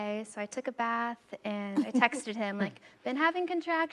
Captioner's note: chuckles